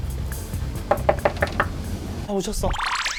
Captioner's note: knocks